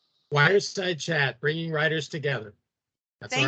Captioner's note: chcukling